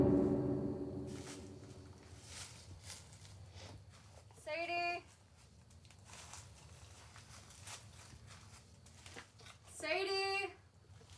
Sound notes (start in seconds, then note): 0.7 leaves rustle